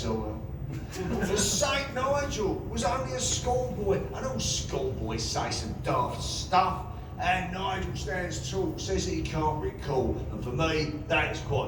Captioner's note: laughter